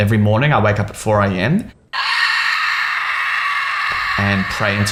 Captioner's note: screaming